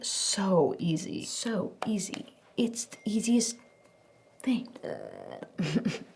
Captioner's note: laughs